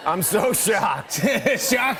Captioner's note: laughs